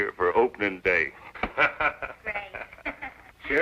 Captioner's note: laughs